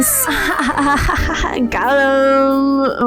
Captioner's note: laughs?